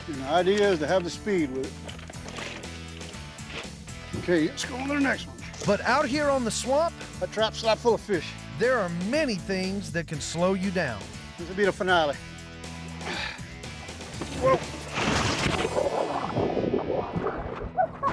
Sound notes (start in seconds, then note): 14.3 splash